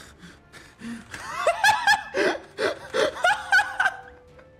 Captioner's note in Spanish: ríete